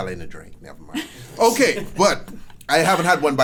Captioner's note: laughs